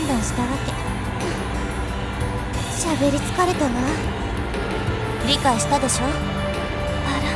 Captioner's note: weary sigh